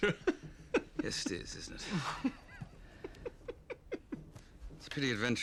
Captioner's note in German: Lacht